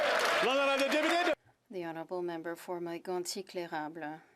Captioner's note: applause